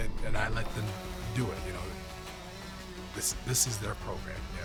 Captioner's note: drone whirring